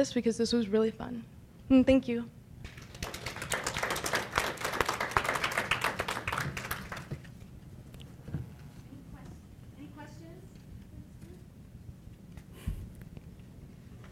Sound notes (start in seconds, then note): 2.6 applause